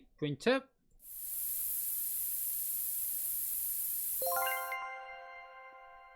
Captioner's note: spray sound